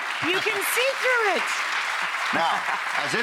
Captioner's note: audience applauding